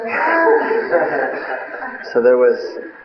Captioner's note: laughter